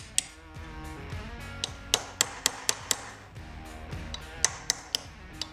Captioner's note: hammering